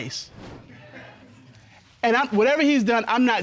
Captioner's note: audience snickering